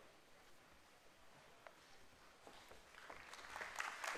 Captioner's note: applause